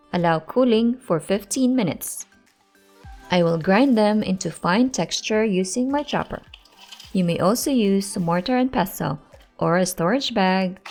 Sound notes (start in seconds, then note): 6.2 nuts clanking